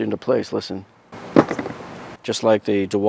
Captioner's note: rattling sound